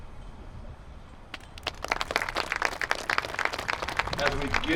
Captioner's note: applause